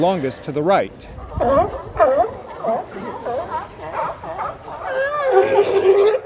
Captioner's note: sea lions barking